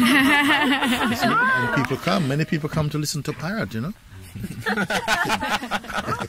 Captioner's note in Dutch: gelach; gelach